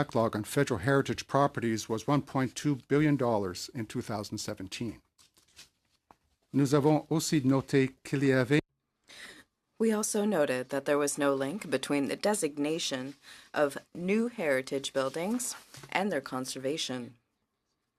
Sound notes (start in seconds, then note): 9.8 speaking in french